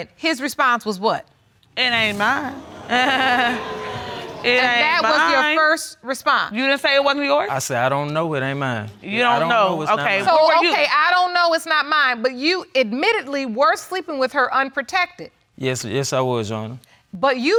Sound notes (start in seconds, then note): 1.9 audience exclaiming; 2.1 laughing sarcastically